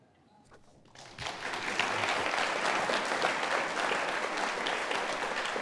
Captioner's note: audience applauding